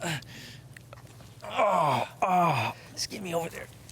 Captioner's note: Malcolm moans intensely